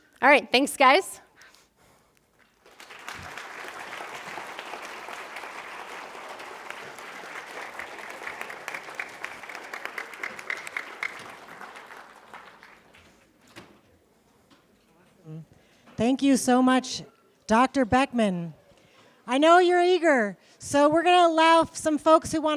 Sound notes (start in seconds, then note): 1.1 applause